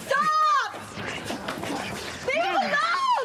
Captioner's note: grunting